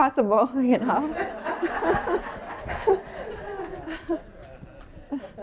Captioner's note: laughter